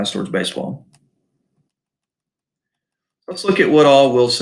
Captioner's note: mouse clicks